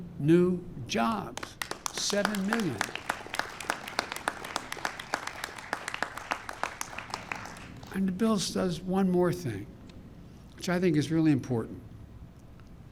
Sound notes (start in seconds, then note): 1.1 applause